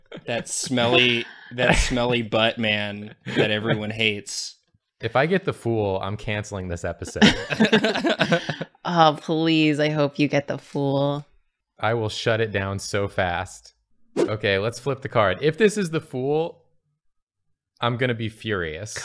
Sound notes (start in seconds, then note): 7.0 laughter